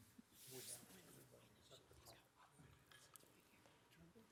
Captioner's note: all chattering